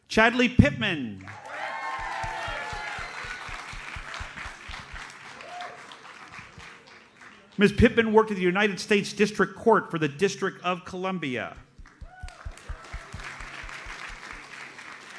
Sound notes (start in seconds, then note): 1.2 audience cheers and applauds; 11.9 audience applauds